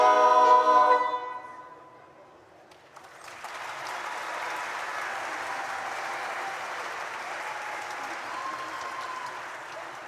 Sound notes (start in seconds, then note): 2.8 audience applauds and cheers